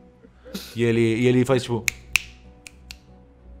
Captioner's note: snap snap